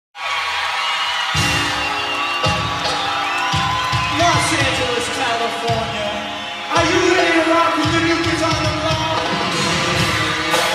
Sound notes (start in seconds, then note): 0.0 crowd cheering; 1.6 upbeat music